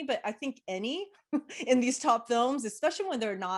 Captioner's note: chuckles